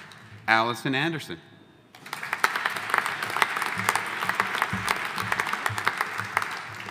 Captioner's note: audience applauding